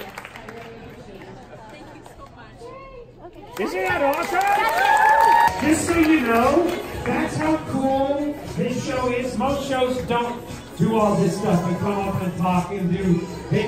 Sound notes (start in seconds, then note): 3.6 audience cheers